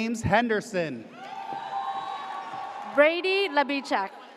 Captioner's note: audience cheers